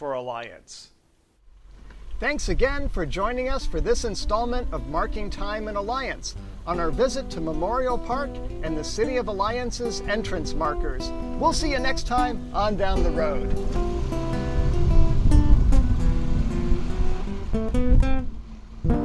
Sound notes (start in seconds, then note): 12.2 car engine sounds; 13.6 theme music playing